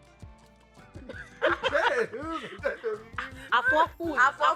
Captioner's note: laughs